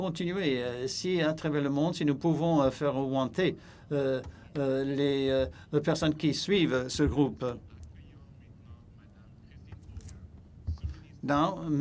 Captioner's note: speaking in French